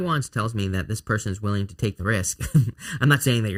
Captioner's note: chuckles